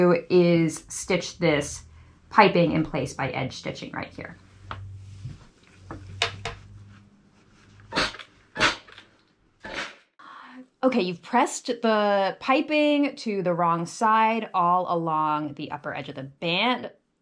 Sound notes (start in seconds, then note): 8.0 steam iron whooshing